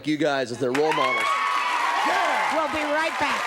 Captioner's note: audience cheering